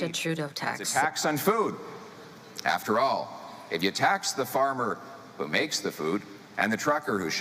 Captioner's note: speaking French